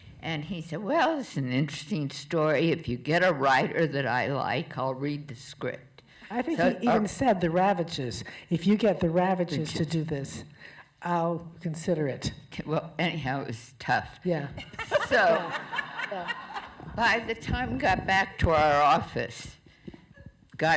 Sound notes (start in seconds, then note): 14.8 laughter from the crowd